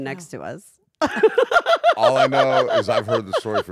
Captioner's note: laugh